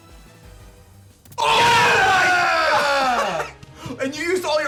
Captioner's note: screams